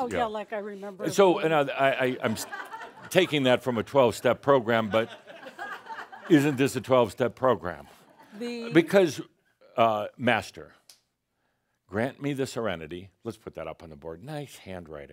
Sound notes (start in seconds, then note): 1.8 some laughter